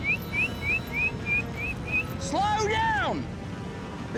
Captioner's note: whistling